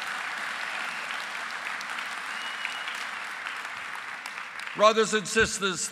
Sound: applause

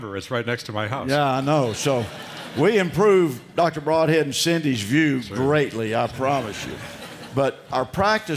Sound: laughter

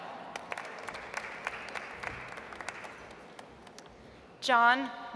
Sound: audience applauds

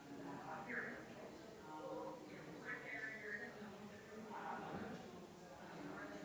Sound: people chattering distantly continues

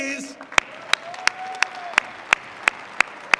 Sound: applause

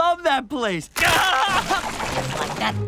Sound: screaming

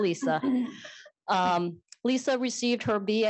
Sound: laughter

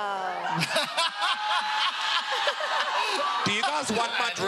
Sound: laughing

